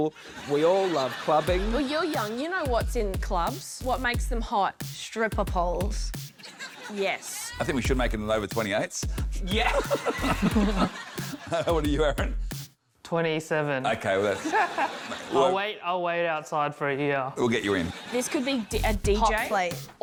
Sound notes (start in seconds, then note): 9.6 laughs